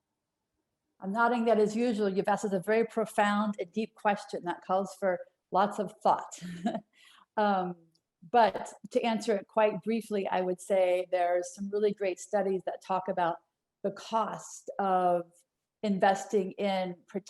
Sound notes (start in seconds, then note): 6.4 laughter